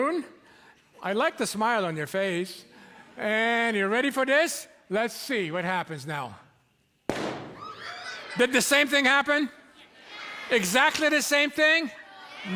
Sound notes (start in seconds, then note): 7.1 balloon pops; 7.6 shrieks of startled delight